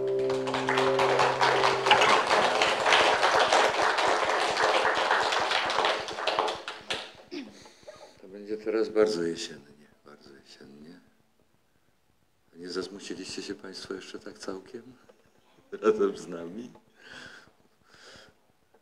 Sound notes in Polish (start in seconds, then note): 16.2 śmiech